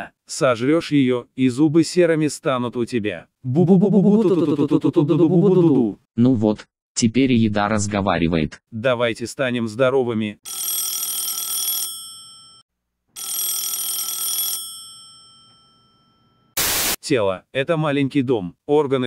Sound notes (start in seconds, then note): 3.3 silly singing; 10.5 phone's ringing